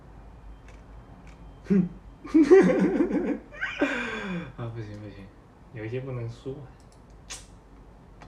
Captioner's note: cACKLiNG